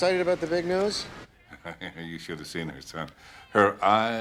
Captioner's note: chuckles